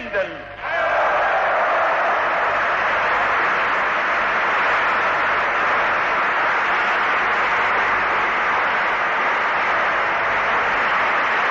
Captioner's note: applause